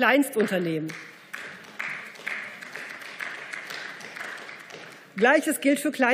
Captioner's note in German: Beifall